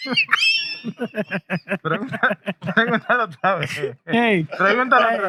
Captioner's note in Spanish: Riendo; Hablando en idioma extranjero